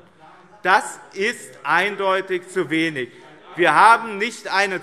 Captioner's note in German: Anhaltende Zurufe